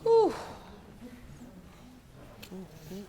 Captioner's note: judge lake exclaims